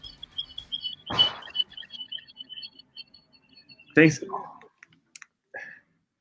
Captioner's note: echoing screech from microphone feedback